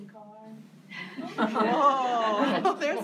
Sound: laughs

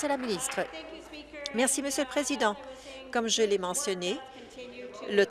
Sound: applause

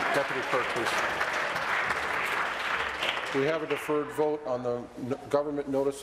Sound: applause

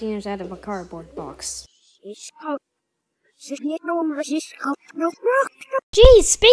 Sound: speaking Backwards

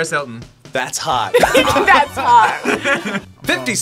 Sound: laughs

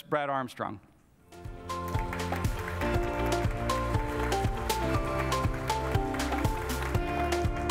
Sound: light happy music; applause

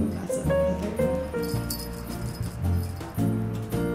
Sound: jingly bell

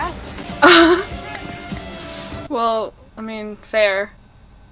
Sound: laughs

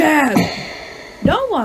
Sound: bang

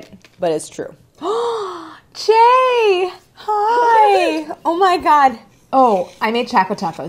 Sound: loudly gasps

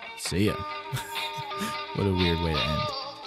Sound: laughter

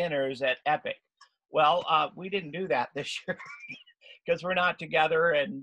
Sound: laughs

